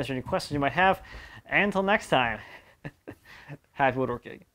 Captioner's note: laugh